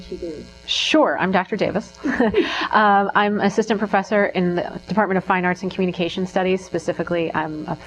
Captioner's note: laughing